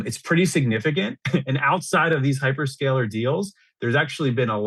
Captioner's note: laughs